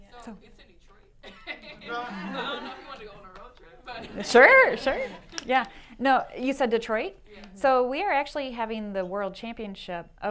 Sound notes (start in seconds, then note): 1.3 laughter